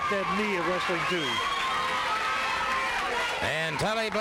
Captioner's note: crowd yelling